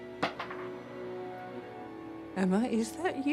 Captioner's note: marble rattling